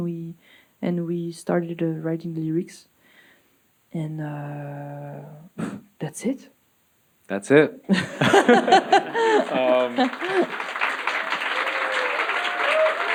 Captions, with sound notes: and we started writing the lyrics, and that's it. - That's it. [audience laughing] [audience applauding]